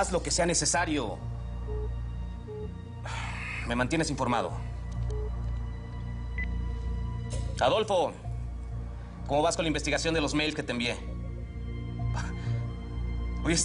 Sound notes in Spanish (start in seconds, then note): 2.4 Bip del celular